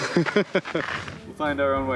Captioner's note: laughing